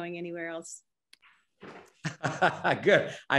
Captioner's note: laughter